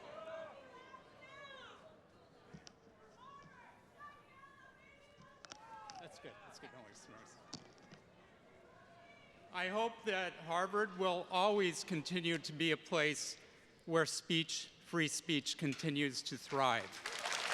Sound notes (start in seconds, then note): 7.1 faintly speaks